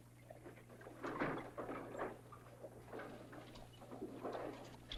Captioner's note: horses hooves; wagon rattling